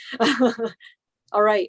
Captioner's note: laughs